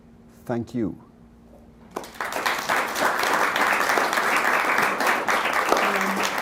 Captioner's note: applause